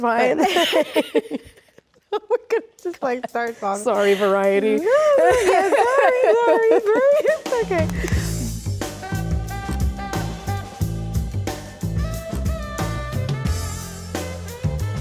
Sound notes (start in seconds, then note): 0.0 Rachel laughs; 0.0 laughs; 9.1 upbeat music